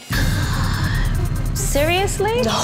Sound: gasps

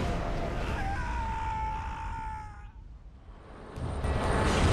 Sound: Nathan screams; plane whooshing

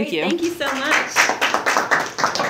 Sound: audience applauds

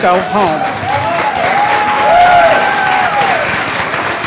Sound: applause

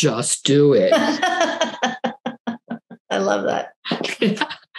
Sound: laughs

